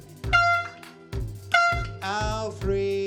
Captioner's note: toot!